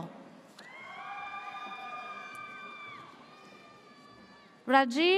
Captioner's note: audience cheers